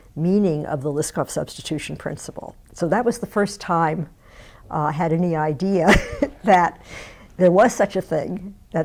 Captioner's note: laughs